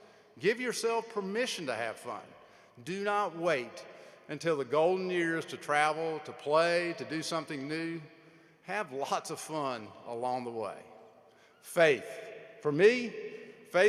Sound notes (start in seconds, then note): none